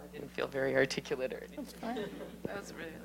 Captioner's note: indistinct chatter